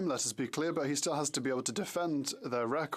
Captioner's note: speaking French